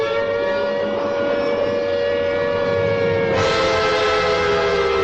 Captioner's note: air sirens ring